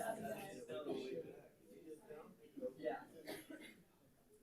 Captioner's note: people chatter